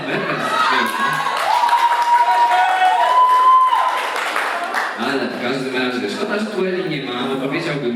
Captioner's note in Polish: Aplauz